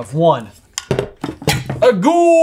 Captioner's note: table thudding